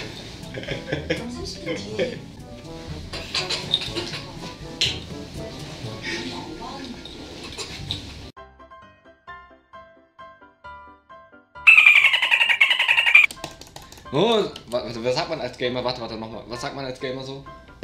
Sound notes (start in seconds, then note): 0.6 more drunk laughing; 3.6 childish drunk lauging